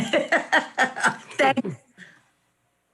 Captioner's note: laughs